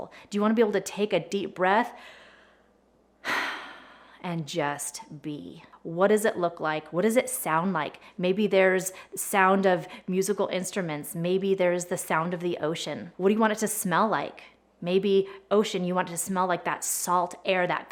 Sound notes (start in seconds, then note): 2.0 inhales deeply and exhales